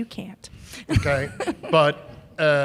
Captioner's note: chuckle